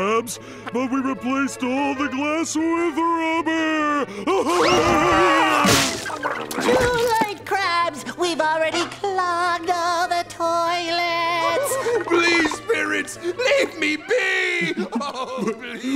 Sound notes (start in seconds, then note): 3.9 laughing